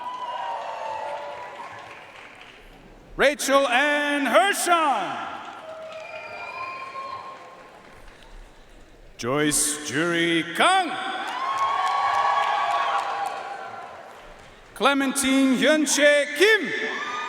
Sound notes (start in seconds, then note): 0.0 audience cheering and applauding; 5.4 audience cheering and applauding; 11.2 audience cheering and applauding; 17.1 audience cheering and applauding